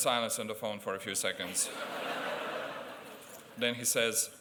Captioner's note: laughter